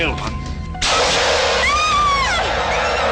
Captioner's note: screams